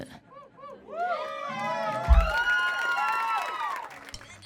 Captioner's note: audience cheering